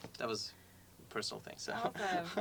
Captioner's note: laugh